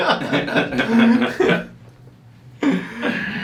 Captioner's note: laughing